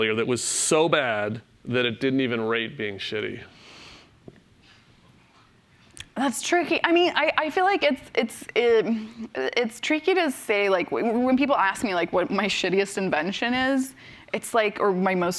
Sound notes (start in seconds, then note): none